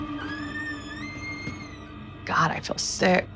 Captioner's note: door creaking